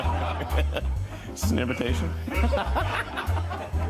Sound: laughter

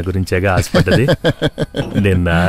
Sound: laughs

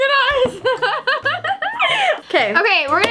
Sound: laughing

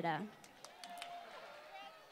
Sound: applause

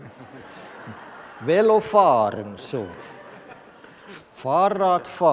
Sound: laughter from the audience

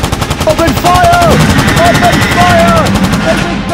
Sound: guns firing

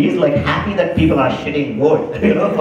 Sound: laugher

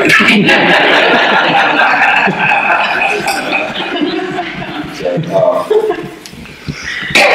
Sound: audience laughter

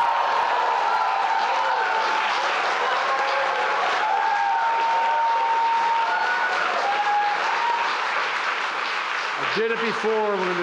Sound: applause

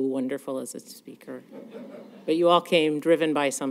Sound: laughter

